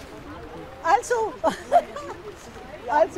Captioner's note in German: lacht